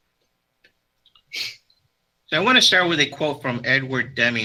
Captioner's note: sniffles